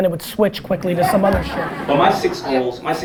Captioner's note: audience laughter